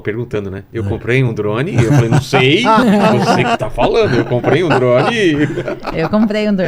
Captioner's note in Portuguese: risadas